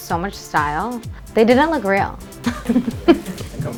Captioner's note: giggles